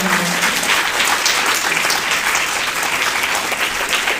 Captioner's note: applause